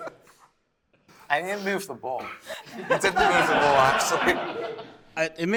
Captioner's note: laughter